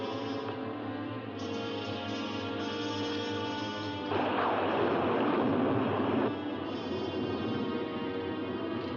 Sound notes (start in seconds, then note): 0.0 suspenseful music; 4.1 loud thunder; 6.3 suspenseful music